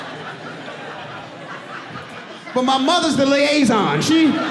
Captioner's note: audience laughing